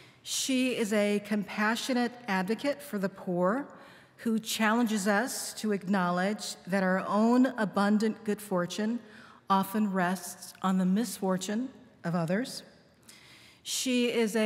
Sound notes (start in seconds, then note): none